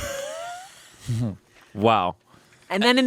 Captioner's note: laughing